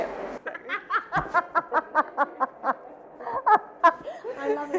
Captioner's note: laughing